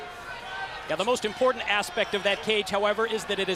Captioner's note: crowd chatter